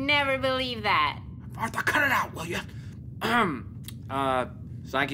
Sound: clearing his throat

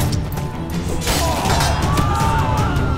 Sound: groan

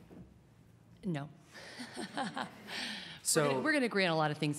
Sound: laughs

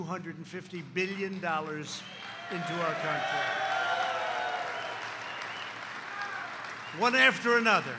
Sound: applause

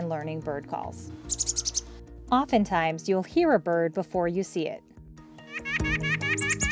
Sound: bird call; Nuthatch call

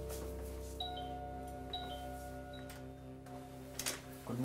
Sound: doorbell ringing

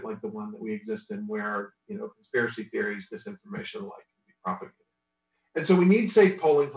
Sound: audio distorts

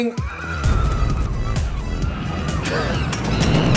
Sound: laughing

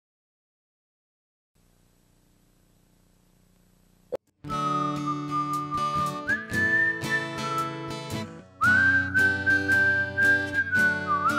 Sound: whistles

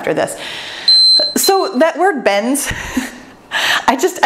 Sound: timer beeps

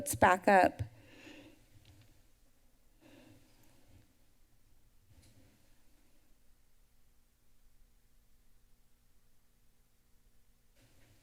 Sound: pause

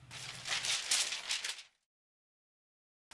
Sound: papers rustling

